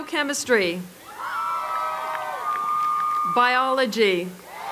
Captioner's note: applause